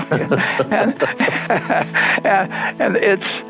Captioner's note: both laughing